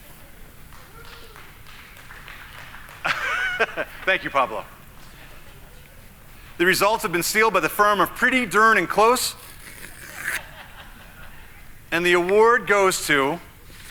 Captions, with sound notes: (audience applauding) (laughing) Thank you Pablo. The results have been sealed by the firm of pretty darn and close. * (laughing) And the award goes to...